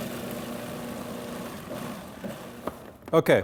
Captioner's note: blender sounds